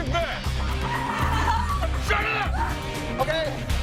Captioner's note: woman screams